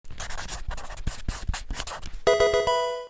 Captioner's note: pen on paper scribbling